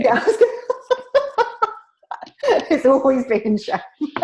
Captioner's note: laughing